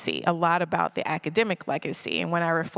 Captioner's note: none